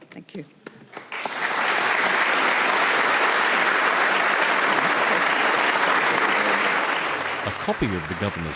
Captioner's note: applause